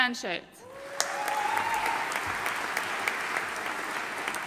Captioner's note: audience applauding